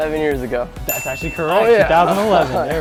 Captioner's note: bell Dings